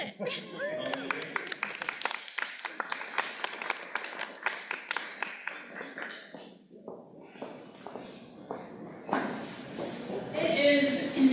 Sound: applause

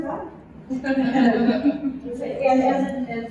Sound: laughter

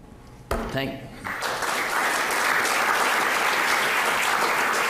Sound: audience clapping

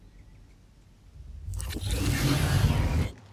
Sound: alien whooshing sounds

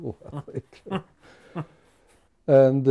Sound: men laughing

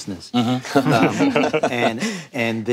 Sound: panel laughing

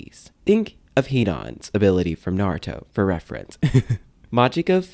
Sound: laugh

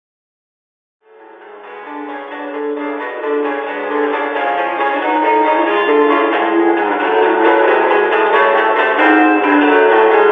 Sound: scary sound

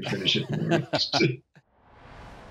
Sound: laughing

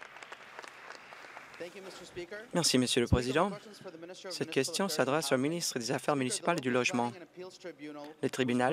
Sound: applause

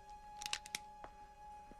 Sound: cocks gun

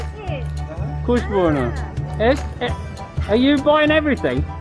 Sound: speak foreign language

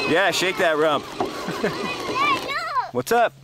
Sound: laughing

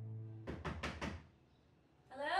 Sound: knocks on door

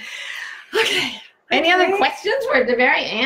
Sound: sighs

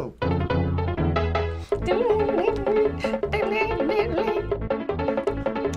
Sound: hums along

